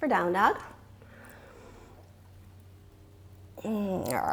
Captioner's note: exhales